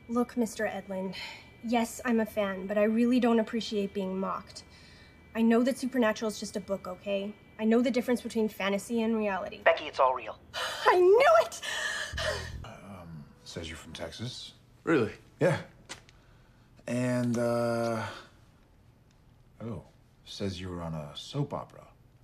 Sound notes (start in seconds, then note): 10.5 gasps